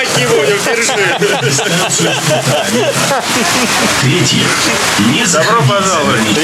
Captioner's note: laughs